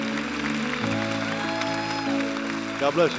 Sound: applause

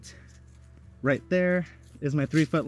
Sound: sand scratching

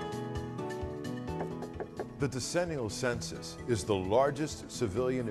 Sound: sound of Knocking on Door

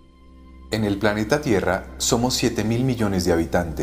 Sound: non-english speech

